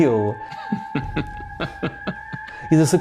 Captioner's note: giggling